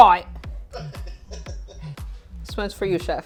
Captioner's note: laughs